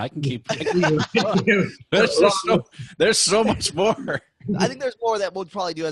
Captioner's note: all laughing